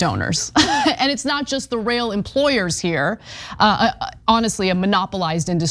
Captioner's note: laugh